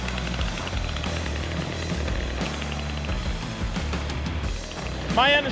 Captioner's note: saw whirring; upbeat music